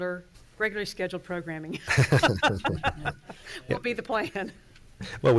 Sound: laughs

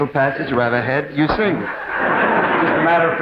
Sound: audience laughs

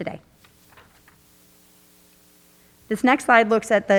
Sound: paper clattering

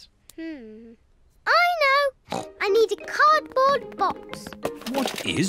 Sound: snorts

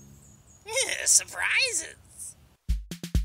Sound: chortles

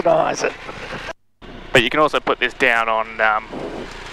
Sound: laughing

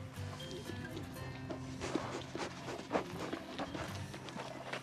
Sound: sheep sniffing

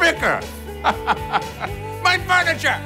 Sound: laughs

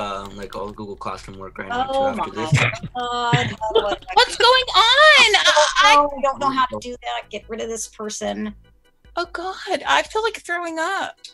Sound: audio from a zoombombing

